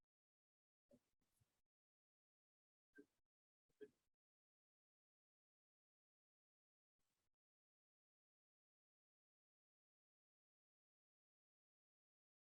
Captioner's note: audio drop